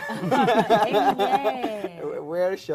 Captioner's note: all laughing